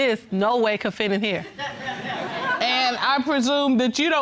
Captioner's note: audience laughing